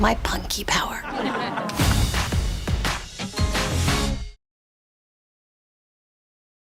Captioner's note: audience laughs; upbeat music